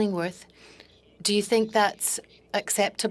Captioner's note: speaking French